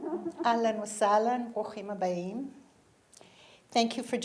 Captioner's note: audience laughing; speaking in foreign language